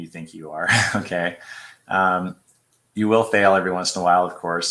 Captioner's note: laughter